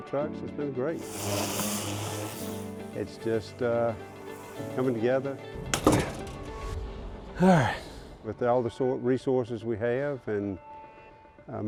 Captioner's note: sighs